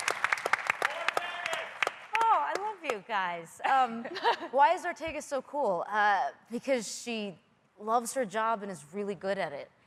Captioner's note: applause